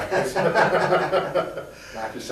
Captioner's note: both laughing